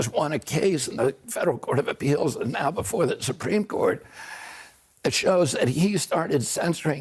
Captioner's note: HABLA EN INGLéS